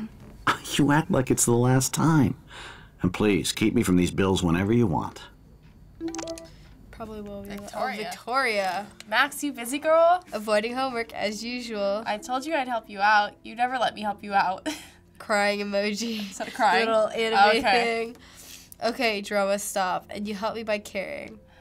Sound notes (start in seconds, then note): 0.3 William chuckles; 16.1 chuckles